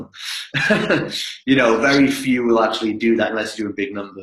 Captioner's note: laughs